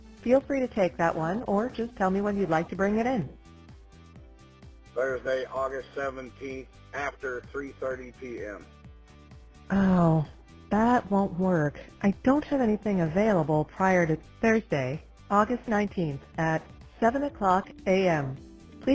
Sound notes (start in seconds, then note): 5.2 male Voice